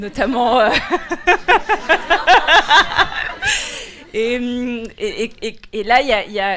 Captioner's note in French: rires